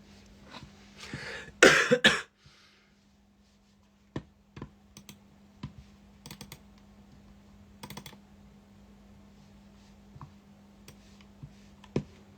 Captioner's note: cough cough